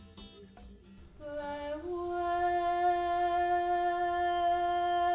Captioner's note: hums